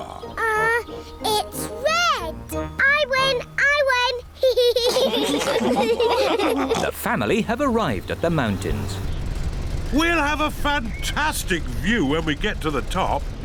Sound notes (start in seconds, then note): 4.4 all laugh